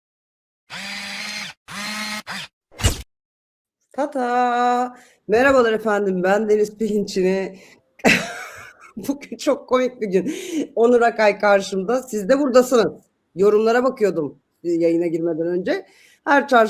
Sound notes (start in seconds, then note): 8.0 kahkaha